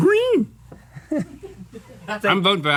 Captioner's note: laughing